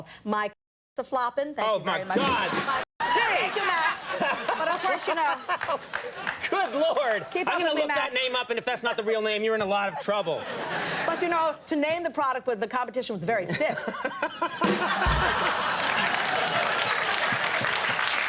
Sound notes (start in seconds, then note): 13.6 laughing; 15.0 applause